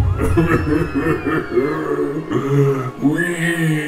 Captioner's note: Darth Vader sobbing